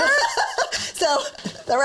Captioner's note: laughs